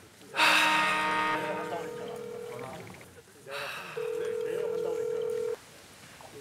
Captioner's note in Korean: 휴대전화 통화 연결음